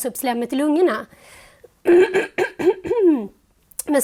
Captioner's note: clears her throat